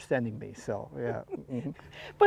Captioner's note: laughs